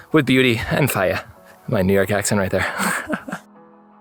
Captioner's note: laughing